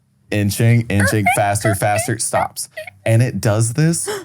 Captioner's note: imitates bed squeaking